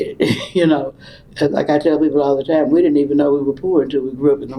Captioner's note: laughs